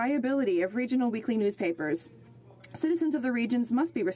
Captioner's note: speaking French